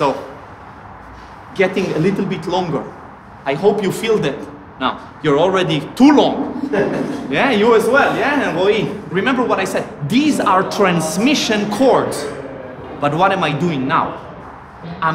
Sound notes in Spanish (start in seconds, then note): 6.5 risas